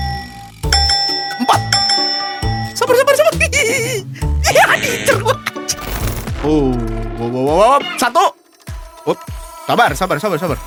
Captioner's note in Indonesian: tertawa